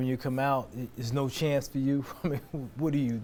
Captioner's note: chuckles